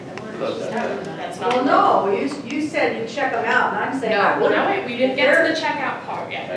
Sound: audience chatter

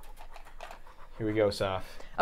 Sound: breathing rapidly

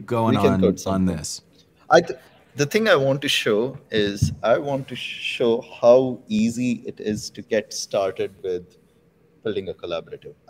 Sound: audio cutting out

